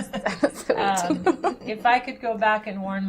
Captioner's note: laughter